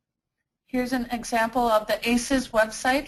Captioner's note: voiceover